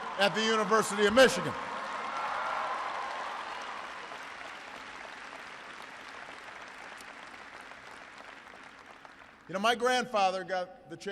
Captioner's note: applause